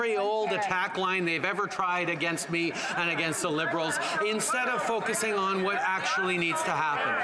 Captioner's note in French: voix de l'interprète